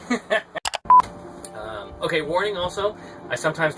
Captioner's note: giggling; click and beep